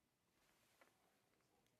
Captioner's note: speaking French